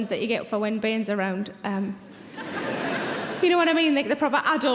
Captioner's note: audience laughs